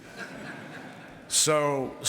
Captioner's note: laughter